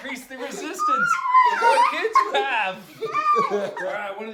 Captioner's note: laughing